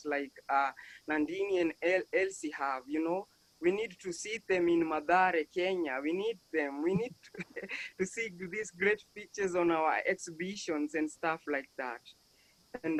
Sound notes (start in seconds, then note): 7.3 panelist laughs